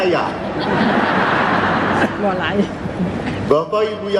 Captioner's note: laughing audiences